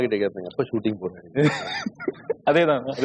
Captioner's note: laughs